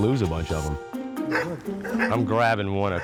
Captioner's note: upbeat music; puppies barking